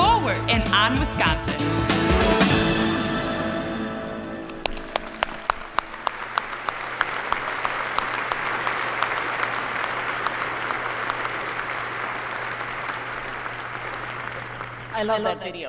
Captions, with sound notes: LOOKING BACK, WE REALIZE HOW FAR UW WOMEN HAVE COME IN 150 YEARS. WHERE WILL YOU GO NEXT? FORWARD! AND, ON, WISCONSIN! (APPLAUSE)